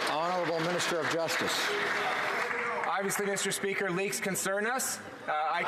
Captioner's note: some Applause